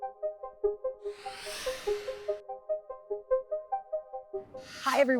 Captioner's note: swooshing